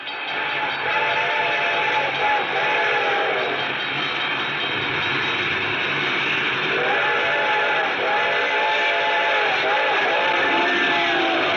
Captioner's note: train horn